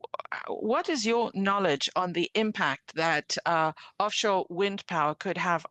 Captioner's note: speaking French